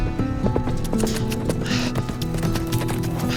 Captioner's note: clicking tongue